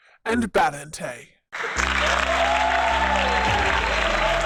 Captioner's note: applause